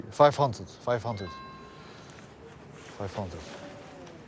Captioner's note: phone chimes